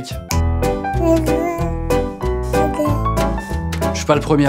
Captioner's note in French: claquement de doigts; musique tranquille; gazouillement de bébé